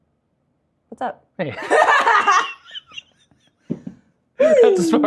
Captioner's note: laughter